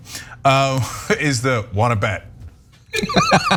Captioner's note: laugh